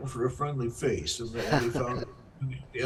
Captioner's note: laughs